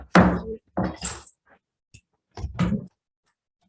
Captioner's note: gavel bangs